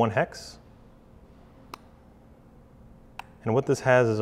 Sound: clicking

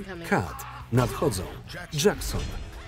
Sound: grunting

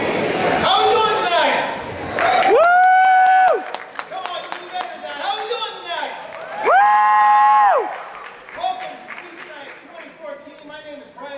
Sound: applause

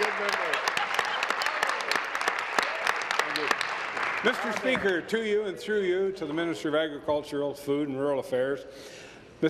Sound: applause

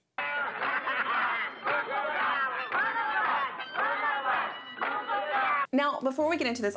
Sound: indistinct chanting and laughter

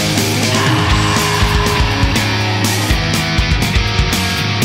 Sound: screams; upbeat rock music

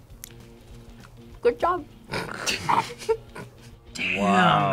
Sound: both laugh

